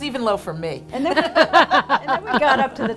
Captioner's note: laughing